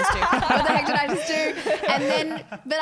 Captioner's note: laughing